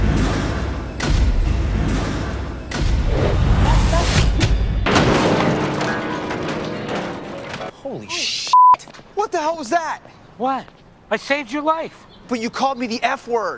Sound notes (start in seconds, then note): 0.0 tense music; 5.6 crash; 8.5 beep